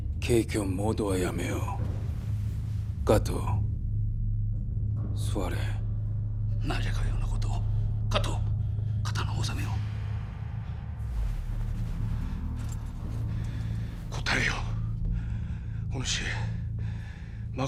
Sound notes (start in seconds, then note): 10.0 Kato’s heavy breathing